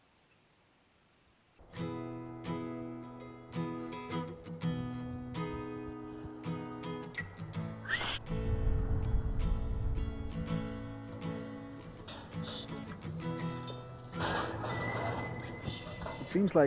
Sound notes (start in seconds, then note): 2.0 relaxing acoustic guitar; 7.8 horse whinnies; 14.8 melodic whistling